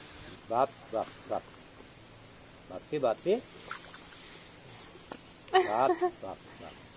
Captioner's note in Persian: صدای صحبت کردن با گاندوها